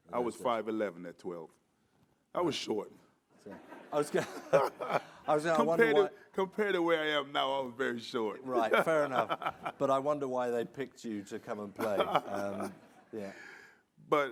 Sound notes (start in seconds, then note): 3.5 audience laughing